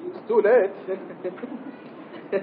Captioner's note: Bir bayan gülüyor; Gülüyor